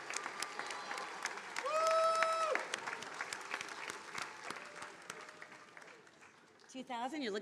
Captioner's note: attendees applauding